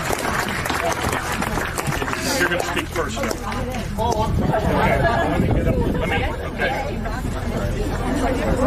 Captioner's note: applause